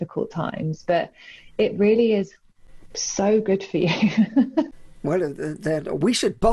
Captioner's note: laughs